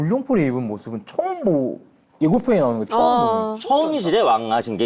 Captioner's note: excited